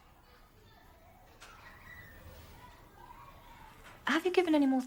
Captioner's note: students continue chattering